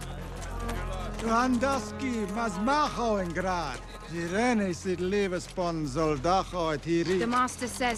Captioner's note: speaking Valryian